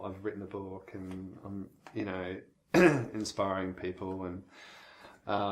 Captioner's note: clears throat